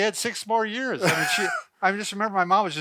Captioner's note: laughs